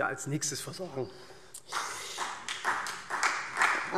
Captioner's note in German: Beifall SPD